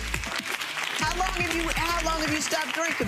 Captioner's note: audience applauds